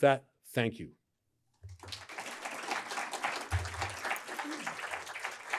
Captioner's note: applause